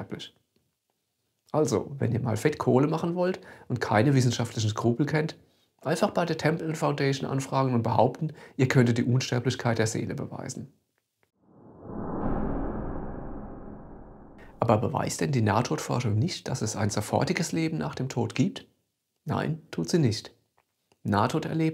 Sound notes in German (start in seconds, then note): 11.5 woosh